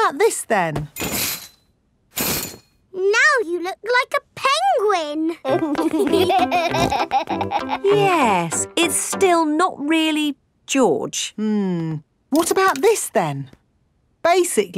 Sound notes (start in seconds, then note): 5.4 laughing